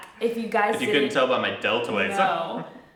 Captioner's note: chuckles